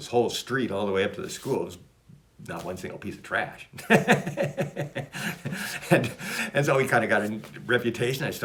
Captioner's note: laughs